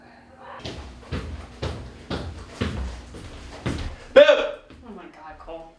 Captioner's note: feet stomp rhythmically